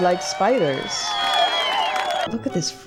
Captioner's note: crowd cheering